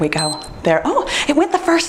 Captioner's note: timer beeps